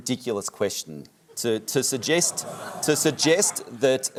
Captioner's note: audience murmurs in disagreement